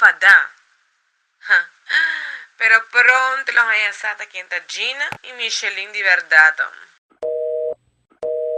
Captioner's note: Micheline on the phone